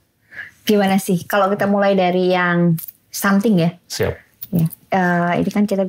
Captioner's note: talking